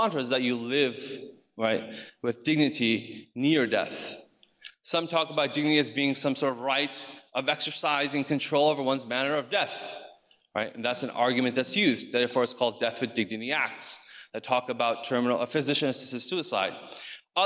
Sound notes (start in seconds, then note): none